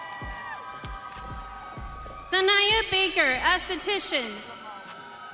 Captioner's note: audience cheering